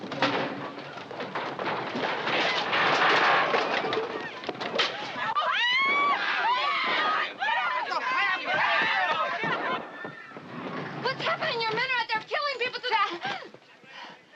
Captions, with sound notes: (shouting) - What's happening? Your men are out there killing people.